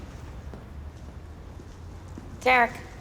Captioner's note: none